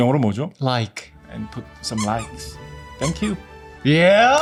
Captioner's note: playful sound effect